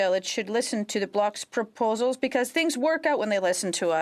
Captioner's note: speaking French